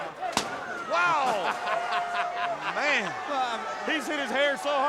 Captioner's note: laugh